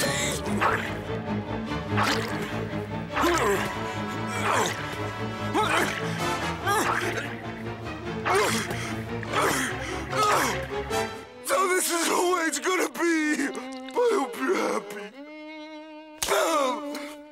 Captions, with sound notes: [grunting] [grunting] So this is how it's gonna be? I hope you're happy. [grunting]